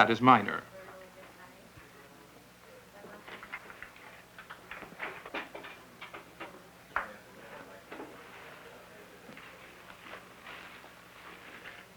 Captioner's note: rustling